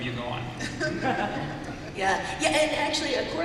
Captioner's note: laughter